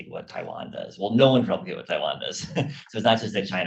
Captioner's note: laughs